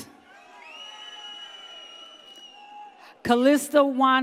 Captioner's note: audience cheers